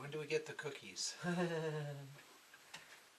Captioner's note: fake laughter